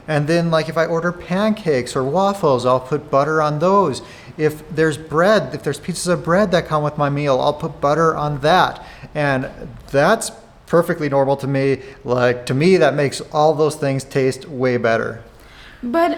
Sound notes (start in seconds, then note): none